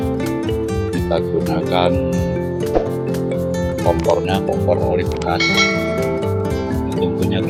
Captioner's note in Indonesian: lonceng